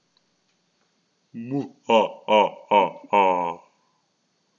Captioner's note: Voldemort is laughing